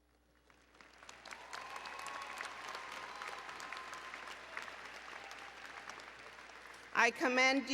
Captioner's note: applause and Cheering